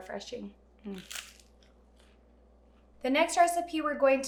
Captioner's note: rice cake crunching